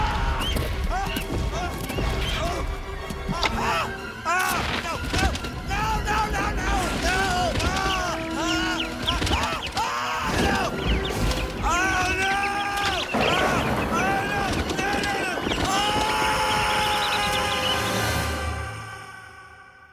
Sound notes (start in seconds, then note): 9.1 screaming; 18.0 screams